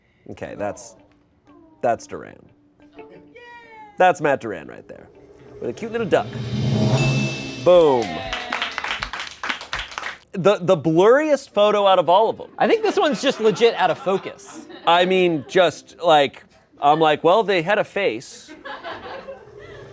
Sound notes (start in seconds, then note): 5.9 bell chimes; 8.3 crew applauds